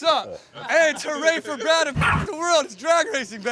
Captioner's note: Mochi barks